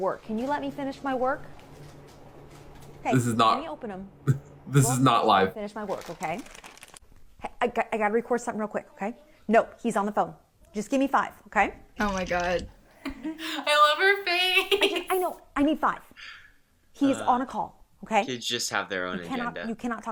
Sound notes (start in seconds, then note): 14.5 chuckles